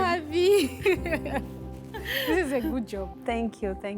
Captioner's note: laughs